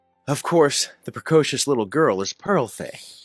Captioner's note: none